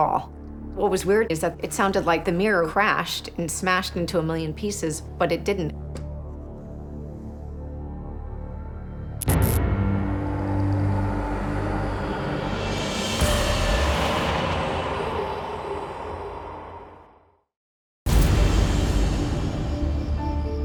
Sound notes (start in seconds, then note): 9.2 light bulb buzzes; 18.1 creepy, haunting music